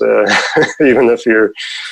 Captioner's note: laughs